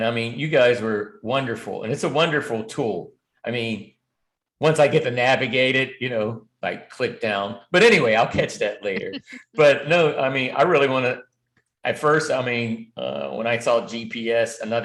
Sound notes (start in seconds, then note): 8.2 laughter